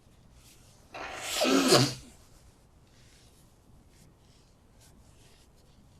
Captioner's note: wiping nose